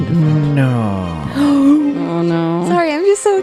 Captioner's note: gasps